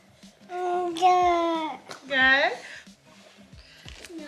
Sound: babbling

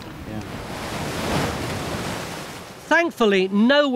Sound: water crashing

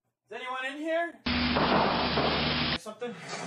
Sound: door Slams; crashing

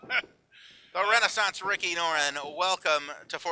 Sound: chuckles

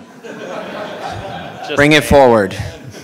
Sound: audience laughing

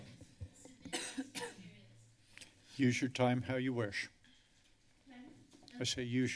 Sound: coughs

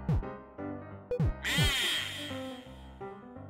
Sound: echoing

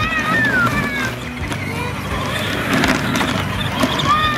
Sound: screaming

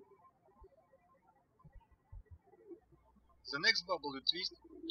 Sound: birds chirping

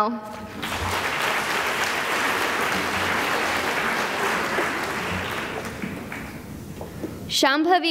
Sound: applause

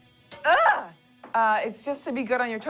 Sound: breathy grunt

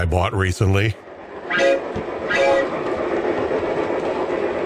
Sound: sound of a train horn

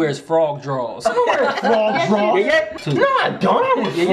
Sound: laughing

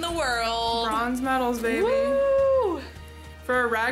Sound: whoops

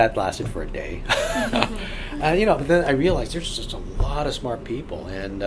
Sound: all laugh

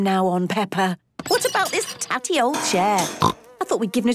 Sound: snorting

